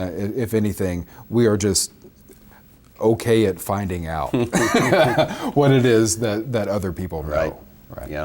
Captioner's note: both laugh